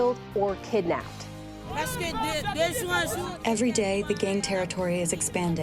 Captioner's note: through translator